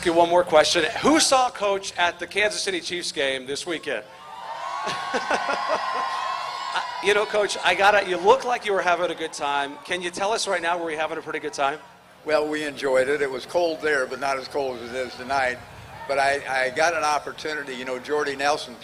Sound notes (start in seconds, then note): 12.0 cheering